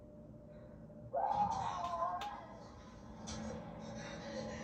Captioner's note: moaning, screaming more in terror